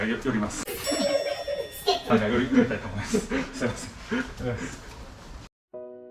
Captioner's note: laughs